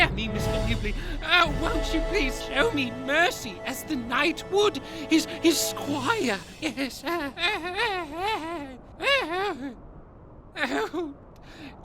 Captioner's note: laughs nervously